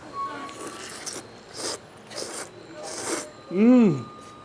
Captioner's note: slurping